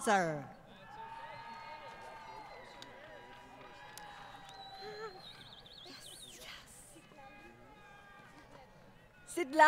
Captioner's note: crowd Cheering & Applause